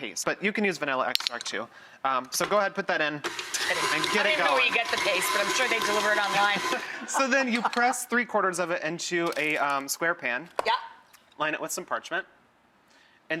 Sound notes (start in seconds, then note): 3.2 mixer whirring; 6.7 laughing